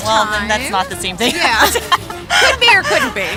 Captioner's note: laughs